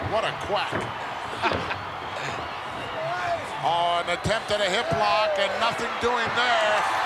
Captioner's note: laugh